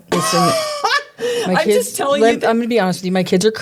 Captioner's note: laughing